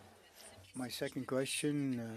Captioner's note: speaking French